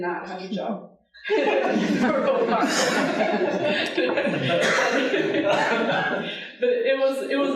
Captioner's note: audience laughing